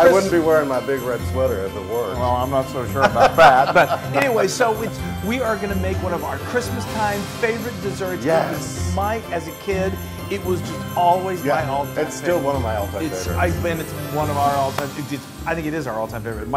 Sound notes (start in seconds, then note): 2.9 laugh